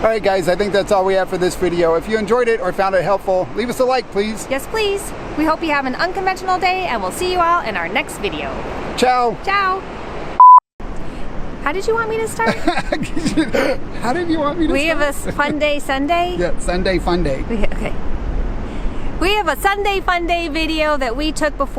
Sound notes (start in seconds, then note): 10.4 beep; 12.4 laughing